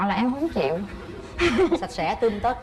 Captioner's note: laughs